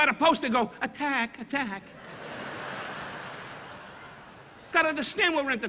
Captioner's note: audience laughing